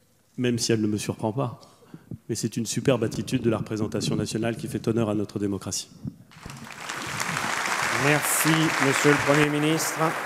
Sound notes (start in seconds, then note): 6.3 applauds